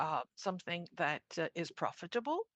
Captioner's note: speaking in French